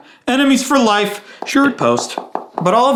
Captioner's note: fingers tapping